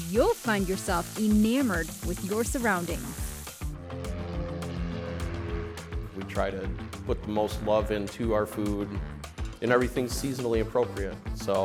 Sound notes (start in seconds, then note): 3.7 airplane droning